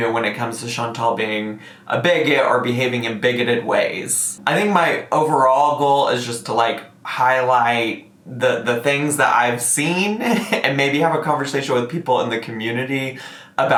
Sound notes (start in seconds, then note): 9.5 chuckles